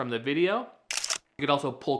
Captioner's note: camera shutter clicks